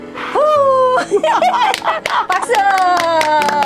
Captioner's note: both laughing